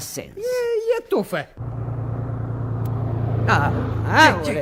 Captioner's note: engine noise